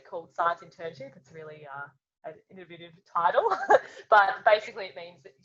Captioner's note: laughs